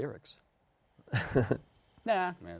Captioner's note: chuckles